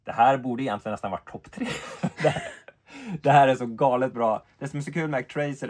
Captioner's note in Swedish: skratt